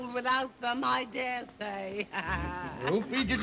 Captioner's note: laughing